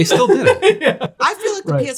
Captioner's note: laughing